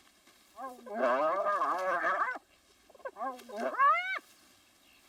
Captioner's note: hyena whining